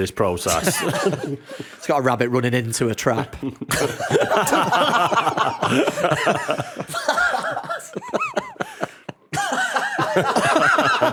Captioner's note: laughter